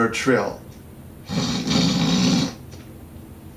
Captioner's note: snorts loudly